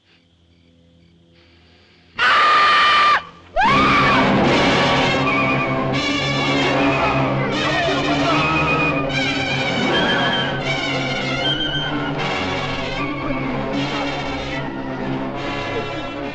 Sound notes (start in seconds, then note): 1.4 sniffing; 2.1 screaming; 7.2 clamoring